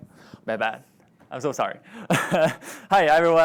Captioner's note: laughs